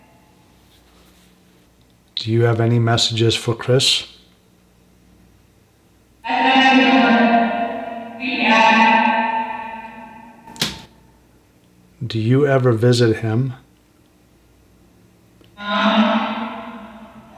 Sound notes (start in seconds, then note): 10.5 tapping noise on wall